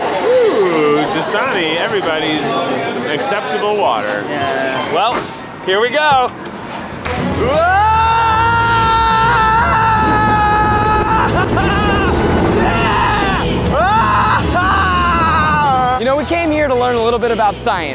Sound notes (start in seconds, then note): 7.4 screams